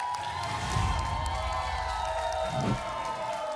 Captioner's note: applause and cheering; whoosh